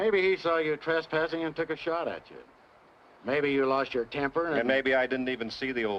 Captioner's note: none